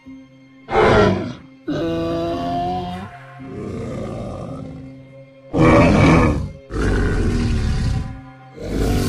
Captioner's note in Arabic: أصوات ترايسيراتوبس